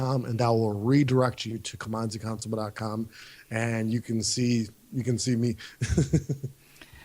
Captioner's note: laughs